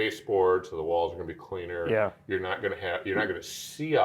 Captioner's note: laughing